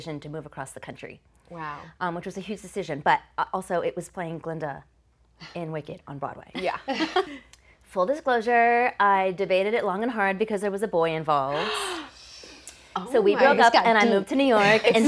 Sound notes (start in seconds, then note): 7.1 laughing; 11.5 gasp